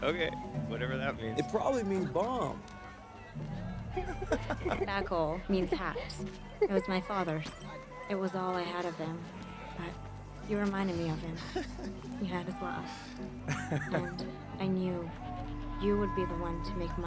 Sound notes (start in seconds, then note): 1.3 starts laughing